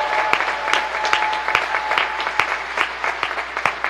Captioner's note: applause